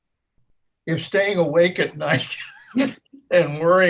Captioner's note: laughs